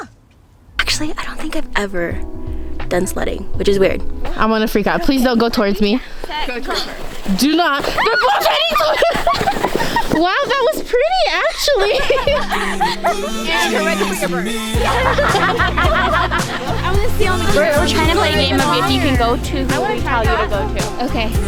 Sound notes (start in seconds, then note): 8.1 screaming gibberish